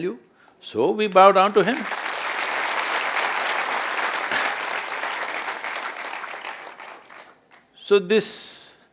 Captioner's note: applause